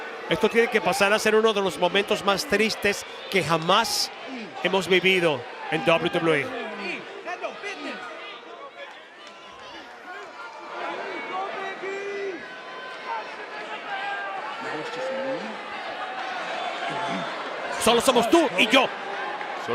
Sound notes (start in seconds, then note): 6.5 applause